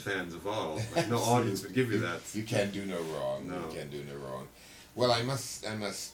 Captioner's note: laughter